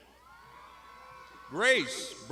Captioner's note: crowd shouting